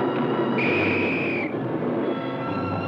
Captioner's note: police whistle